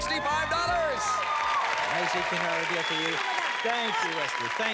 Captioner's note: cheers and applause